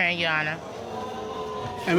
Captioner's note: audience exclaiming